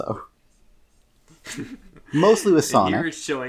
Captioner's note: chuckling; chuckles